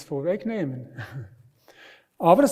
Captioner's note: laughs